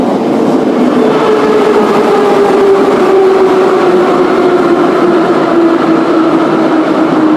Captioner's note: braking - arrival at the station